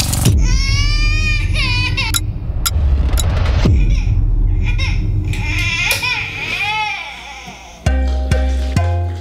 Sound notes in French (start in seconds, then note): 0.4 pleurs de bébé; 3.1 tic-tac; 3.6 pleurs de bébé